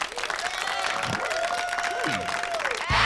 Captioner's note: cheer and applause